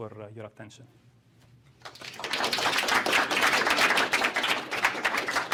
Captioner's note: applause